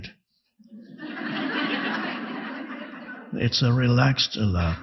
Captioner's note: audience laughing